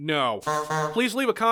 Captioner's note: honk honk